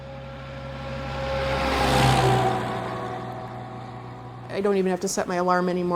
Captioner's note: engine roaring